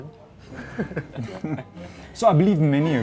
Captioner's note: both laugh